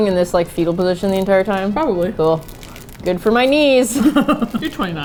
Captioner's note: sarcastically; laughs